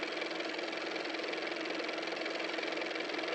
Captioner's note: car motor